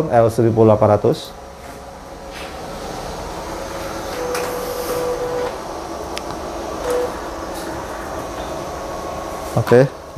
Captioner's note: printer machine noise